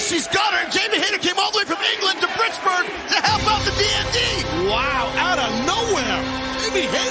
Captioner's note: bell